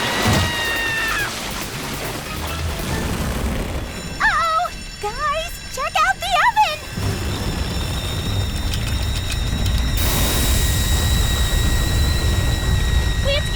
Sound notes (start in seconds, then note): 5.1 the gauges whistle